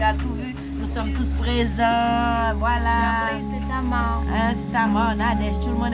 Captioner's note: speaking in French